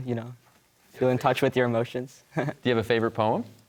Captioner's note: chuckles